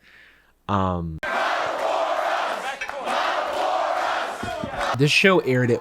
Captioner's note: crowd chanting "model for us"